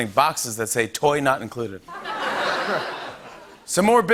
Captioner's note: laughter